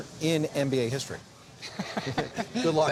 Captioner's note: both chuckle